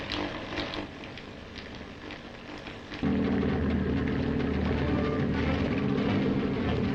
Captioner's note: machine sparking; submarine rumbling